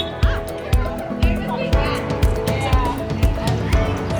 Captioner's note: horn honking; crowd chattering